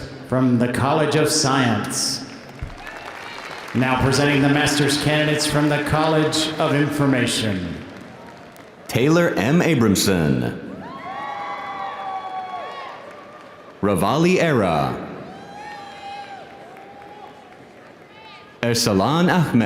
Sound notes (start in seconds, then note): 2.4 audience applauding